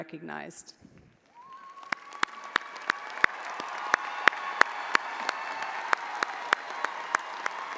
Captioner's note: audience applauding; audience cheering